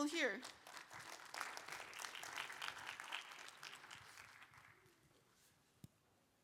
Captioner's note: applause